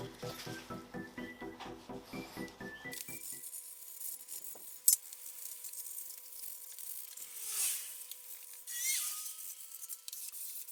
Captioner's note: working sound